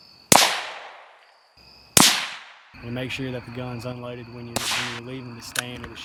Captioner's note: NATS: gun shots